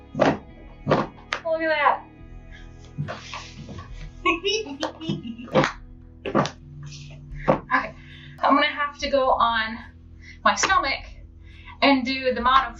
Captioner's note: giggles